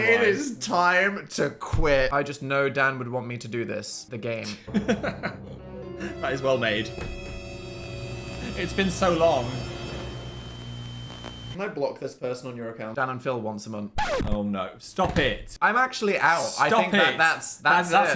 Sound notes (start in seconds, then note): 4.4 Phil laughing; 4.4 ominous music; 14.0 record scratching